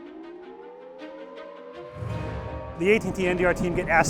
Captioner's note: tornado warning siren